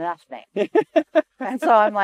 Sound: laughs

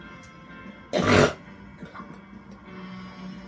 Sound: huge snort

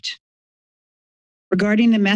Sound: silence

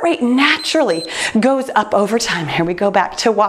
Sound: timer beeps

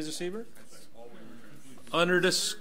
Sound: overlapping chattering

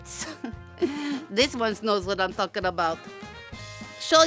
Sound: chuckles

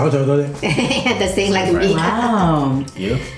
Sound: laugh

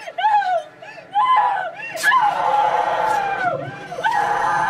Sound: screaming

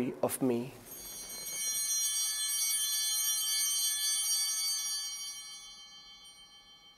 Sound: bells ringing

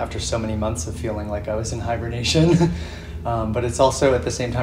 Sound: chuckles

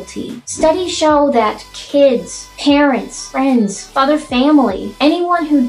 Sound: swoosh

